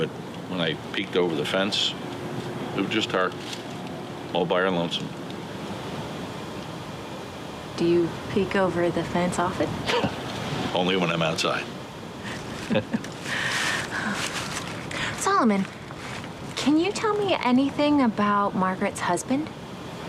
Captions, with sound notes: but when I peeked over the fence, it was just her all by her lonesome. - Do you peek over the fence often? - (laughs) Only when I'm outside. (Teresa chuckles) - Solomon, can you tell me anything about Margaret's husband?